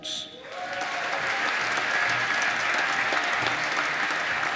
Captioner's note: applause